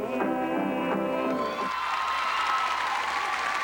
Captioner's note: applause